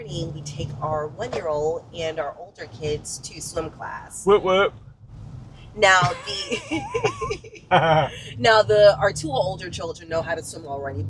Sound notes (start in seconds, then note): 5.8 laughs